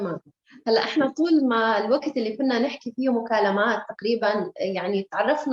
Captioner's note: speaking Arabic